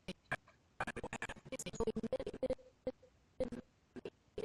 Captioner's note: audio skipping